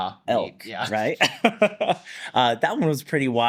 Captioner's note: laughs